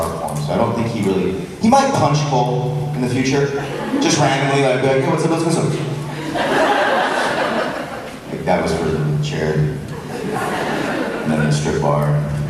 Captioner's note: crowd laughs